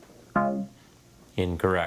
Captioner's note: scoreboard buzzes